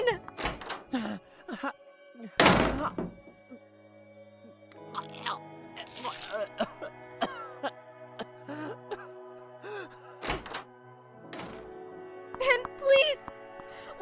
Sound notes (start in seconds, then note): 0.8 panicked breathing; 5.8 vomiting